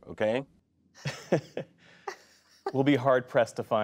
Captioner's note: laughter